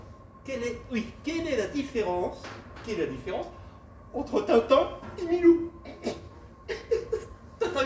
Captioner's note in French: Rires